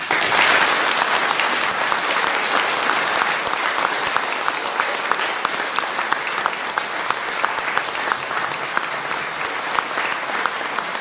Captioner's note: applause